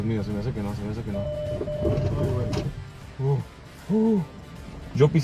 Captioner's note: alarm beeping; car breaking